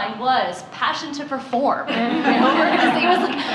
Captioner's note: laughter